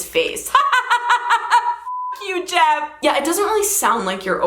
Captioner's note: beep